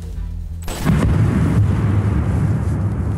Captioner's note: distant, dull crashing